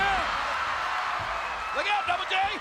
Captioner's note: audience cheering